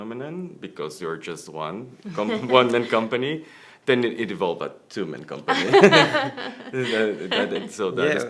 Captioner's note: laughter